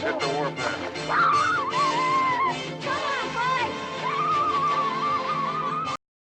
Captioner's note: imitating Amerindian war cry